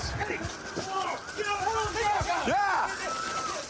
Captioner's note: officers yelling